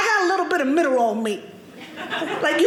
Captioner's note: audience laughing